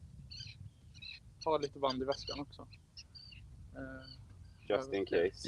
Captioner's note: indistinct chatter